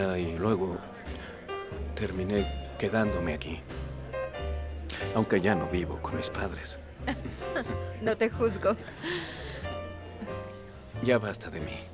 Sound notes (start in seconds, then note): 7.0 Ambos ríen